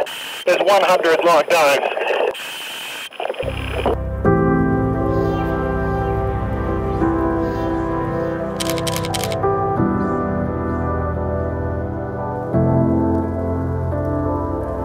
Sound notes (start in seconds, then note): 3.2 calm music; 3.2 camera shuttering